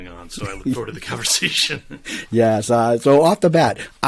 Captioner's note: laughs